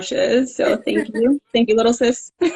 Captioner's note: laughing